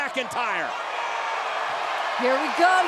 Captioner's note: audience cheering